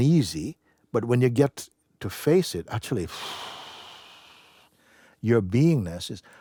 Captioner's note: exhaling in relief